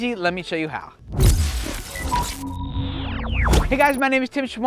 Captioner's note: air whooshing; electronic chiming